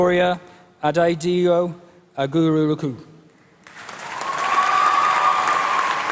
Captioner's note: applause